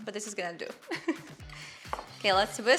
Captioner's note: giggling